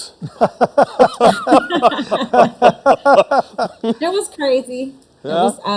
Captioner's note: everyone laughing